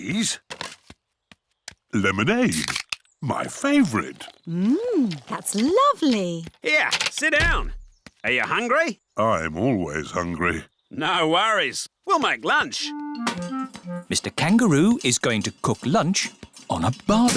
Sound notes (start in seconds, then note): none